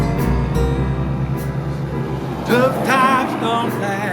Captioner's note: wind blowing